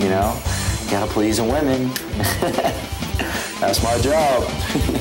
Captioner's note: laughing